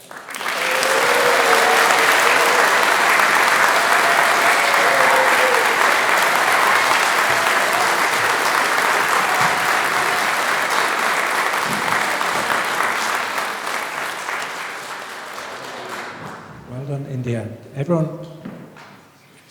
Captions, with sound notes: [Applause] Well done India, everyone